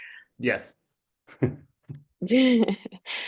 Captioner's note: chuckles